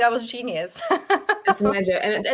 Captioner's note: woman laughing